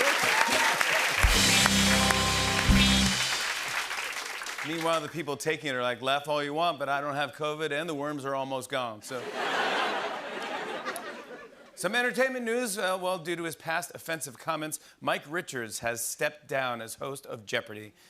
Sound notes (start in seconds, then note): 0.1 rimshot; 5.8 southern accent; 9.1 laughter